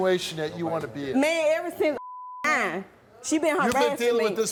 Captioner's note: beep